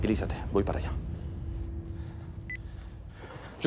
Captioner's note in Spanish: Bip